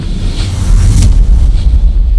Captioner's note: imitates bass music